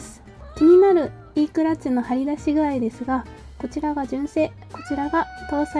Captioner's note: My beloved cat SUZU is meowing